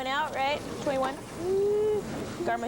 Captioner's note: concerned noise